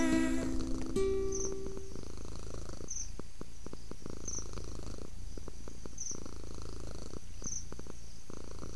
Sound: purr purr purr and crickets

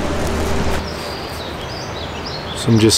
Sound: birds chirping

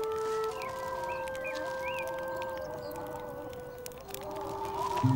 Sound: wind blowing

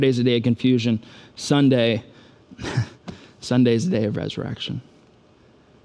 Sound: chuckles

